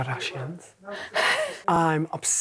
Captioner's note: laughs